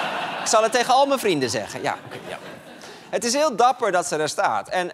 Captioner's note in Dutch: gelach